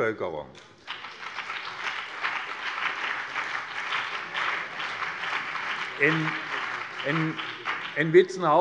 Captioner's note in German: Beifall BÜNDNIS 90/DIE GRÜNEN und CDU